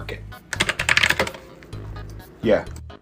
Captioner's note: keyboard clacking